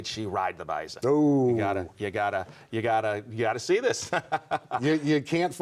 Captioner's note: laughs